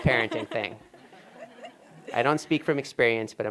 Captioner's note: laughter